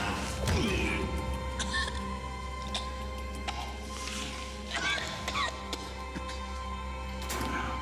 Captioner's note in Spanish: quejidos